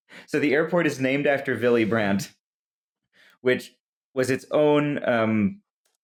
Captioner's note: none